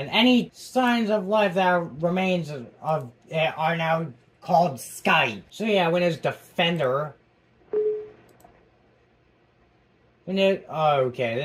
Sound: UAC Sound

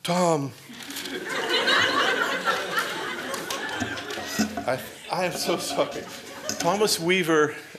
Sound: laughter

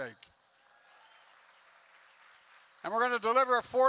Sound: applause

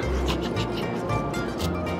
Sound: snickers

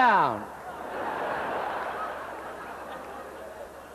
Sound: laughter

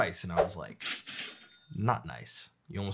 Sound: cash register ringing

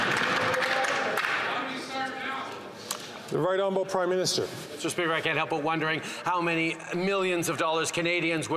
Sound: applause

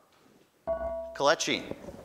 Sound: ding

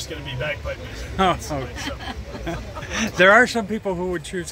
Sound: laughters

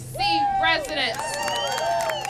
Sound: applause

